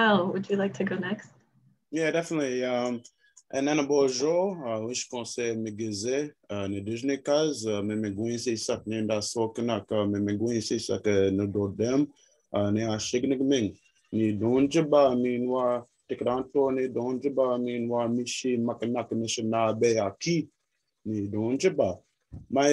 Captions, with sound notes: Nyle, would you like to go next? Yeah, definitely. (Speaking in Anishnaabemowin)